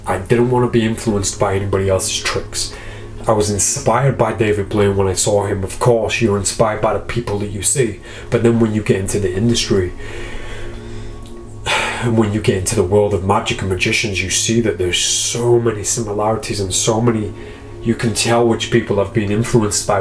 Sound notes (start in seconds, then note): 11.6 sighs